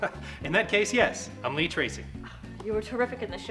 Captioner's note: chuckles